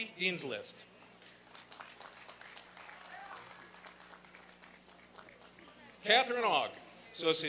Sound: applause and cheering

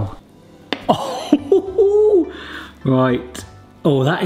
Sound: chuckles excitedly

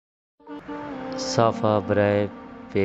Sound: /in Hindi/Urdu and English

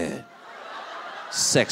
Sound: audience laughing

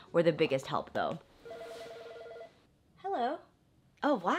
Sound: phone ringing

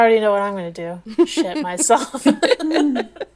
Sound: laughing

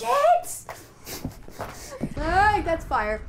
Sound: laughter

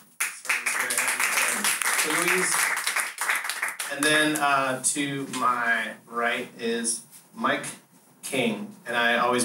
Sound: applause

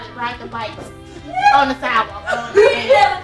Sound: voiceover; laughs loudly; voiceover

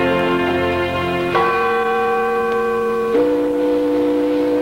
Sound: bell ringing

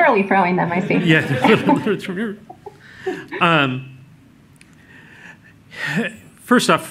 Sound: laughter

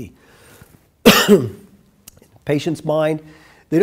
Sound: coughs

